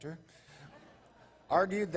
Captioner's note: laughter